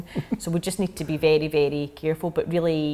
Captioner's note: laughing